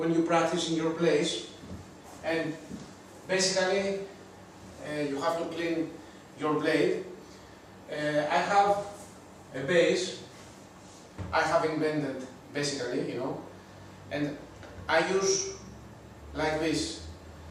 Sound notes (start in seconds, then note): none